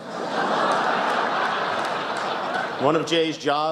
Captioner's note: laughter